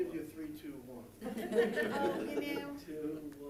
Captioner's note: group laughing